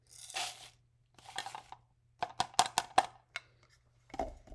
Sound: beans rattle in cup

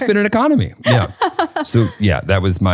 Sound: laughing

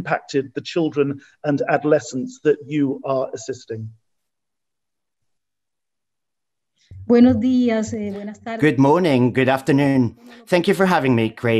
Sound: speaking Spanish

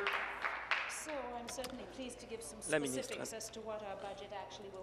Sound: applause

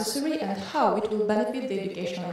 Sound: none

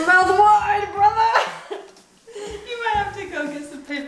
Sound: laughing

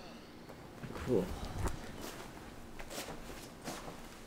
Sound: sighing

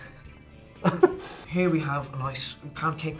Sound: laughs; in English accent

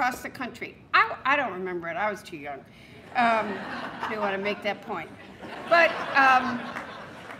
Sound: laughter

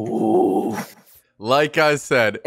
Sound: groans

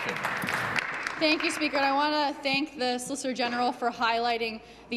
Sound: applause

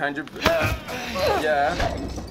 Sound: Mia grunts

